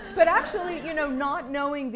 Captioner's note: laughter